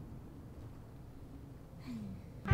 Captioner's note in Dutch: sighs